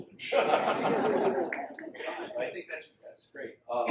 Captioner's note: audience laughs